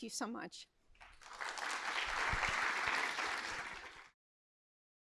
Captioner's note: applause